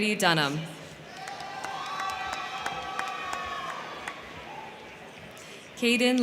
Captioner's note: crowd cheering; crowd clapping